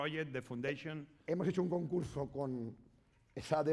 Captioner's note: speaking spanish